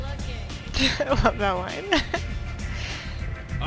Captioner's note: laughs